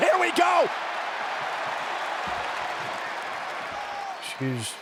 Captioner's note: audience cheering